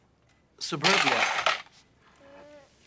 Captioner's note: clattering